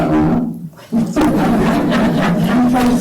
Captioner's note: laughter